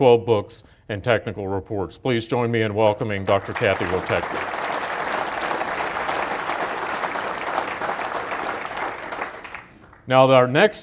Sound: applause

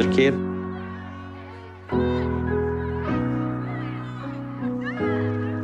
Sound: kids hollering; dramatic piano music

